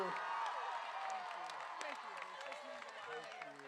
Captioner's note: crowd cheering